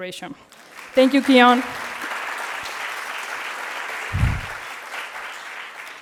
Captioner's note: audience clapping